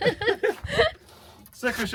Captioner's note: laughing